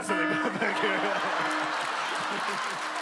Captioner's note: siren blarin